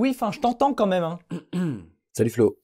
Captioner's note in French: se racle la gorge